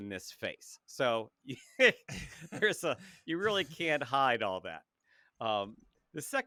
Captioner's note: laughs